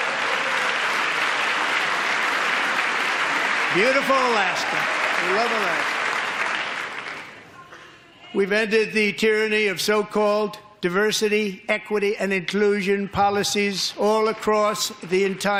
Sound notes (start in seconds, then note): 2.9 applause